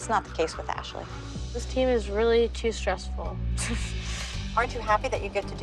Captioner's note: laughs